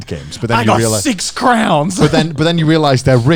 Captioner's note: chuckling